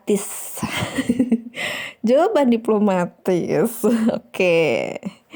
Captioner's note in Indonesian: tertawa